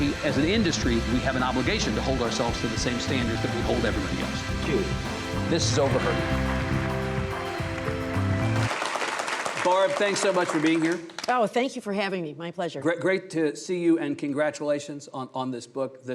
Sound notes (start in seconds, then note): 8.7 audience applauding